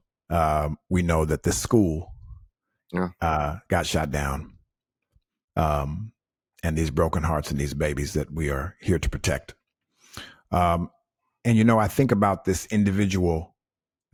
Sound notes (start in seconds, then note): none